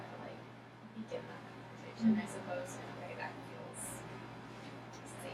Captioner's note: speaking softly